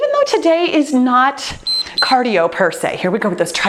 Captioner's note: timer beeps